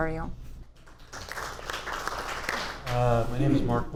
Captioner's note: audience applauds